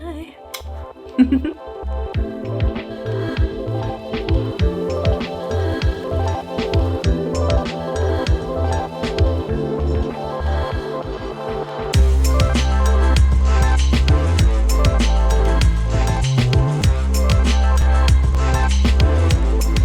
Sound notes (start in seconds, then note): 1.1 laughing